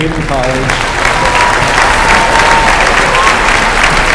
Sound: applause

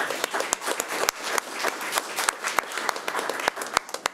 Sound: crowd clapping

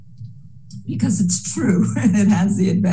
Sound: laughs

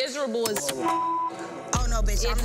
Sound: beep

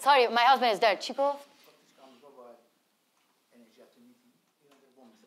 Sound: speaks in foreign language

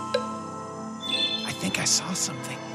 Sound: clock ticking; ghost tinkling

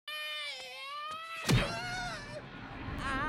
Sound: shrieks

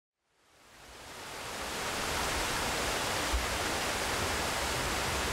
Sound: water splashing

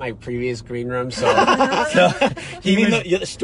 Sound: laughing

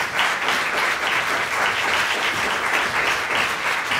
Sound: applause

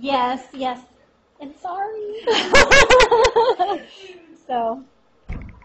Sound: laughs

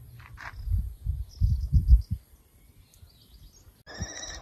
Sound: birds singing

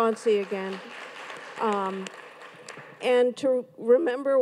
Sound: audience claps

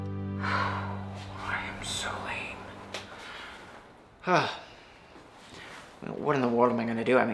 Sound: sighs; groans

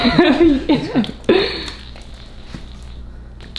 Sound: laughter

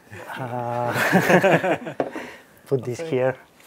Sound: laughs

